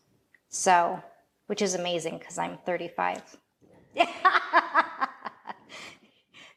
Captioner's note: laughing